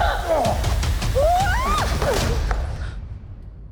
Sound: man groans; Enola screams, grunts

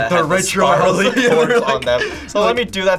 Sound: laughs

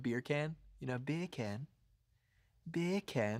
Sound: in english accent

